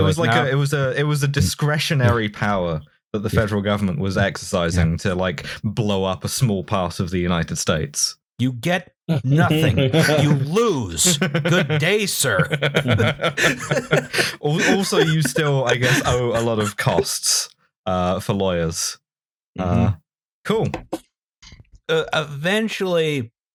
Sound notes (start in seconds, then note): 11.0 laughter